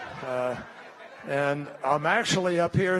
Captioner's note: laughter